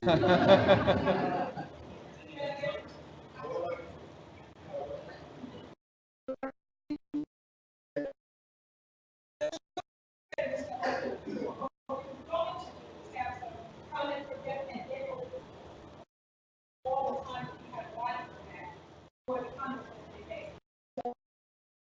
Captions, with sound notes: (audience laughs) (overlapping chattering) (mic cuts out) We're going to have some comments from Debbie Mans, for the comments that they made, so.